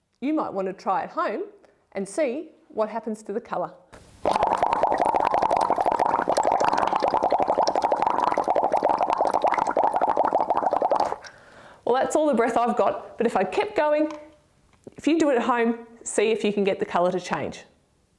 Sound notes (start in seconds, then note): 4.0 bubbling